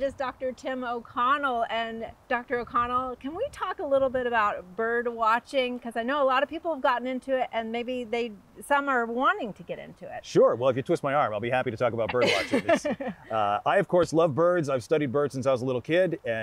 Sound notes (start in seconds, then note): 12.1 laughing